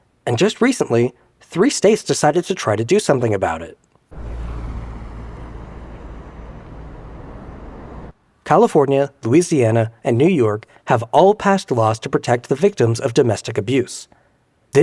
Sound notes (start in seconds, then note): 4.1 distant car rumbling